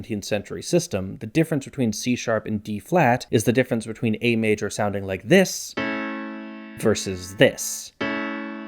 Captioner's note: bang